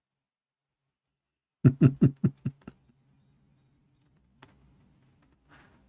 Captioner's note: Ketawa